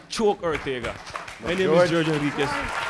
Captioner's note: audience applauds